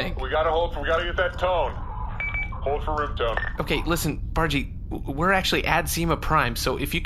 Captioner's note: device beeps